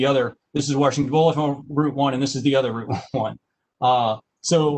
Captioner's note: laughter